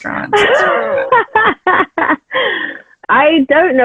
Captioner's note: laughs